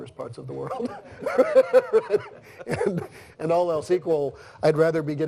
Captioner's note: laughs